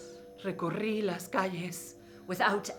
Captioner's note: speaking in foreign language